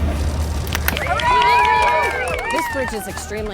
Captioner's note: crowd Cheers